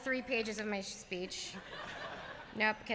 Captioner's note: laughter